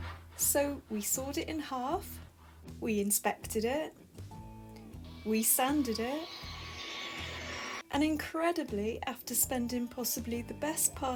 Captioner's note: voiceover